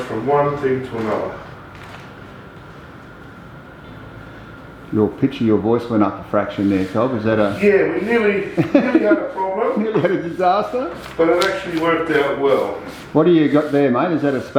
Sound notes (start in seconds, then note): 8.4 laughs